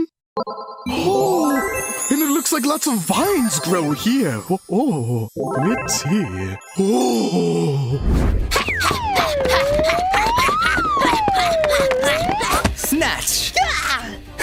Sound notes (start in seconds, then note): 0.8 vibrant, happy noise; 8.8 running sounds; 11.5 panting